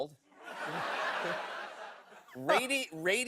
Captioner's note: laughter